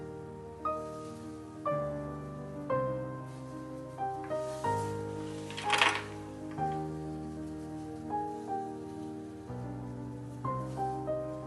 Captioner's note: clips rustling